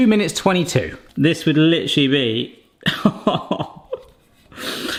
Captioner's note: laughs